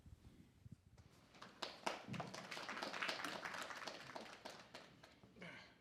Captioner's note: applause